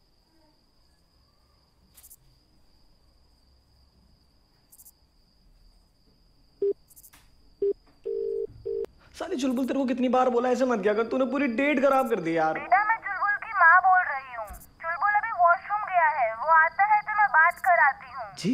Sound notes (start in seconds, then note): 8.0 phone rings; 12.6 on phone